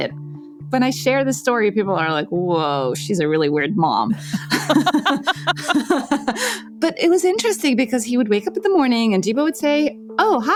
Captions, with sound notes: When I share this story, people are like, "Whoa. She's a really weird mom." (LAUGHTER) But it was interesting because he would wake up in the morning and Geebo would say, "Oh, Hi, Adam,"